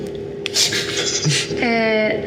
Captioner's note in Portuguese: risada